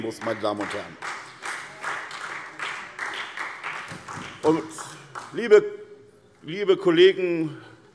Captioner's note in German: Vereinzelter Beifall SPD, CDU, AfD und Freie Demokraten